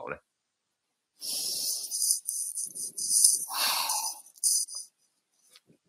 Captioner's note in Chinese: 深呼吸